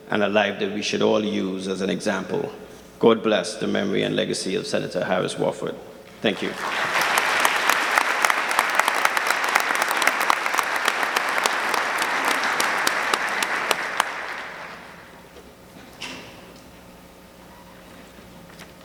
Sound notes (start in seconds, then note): 7.6 audience clapping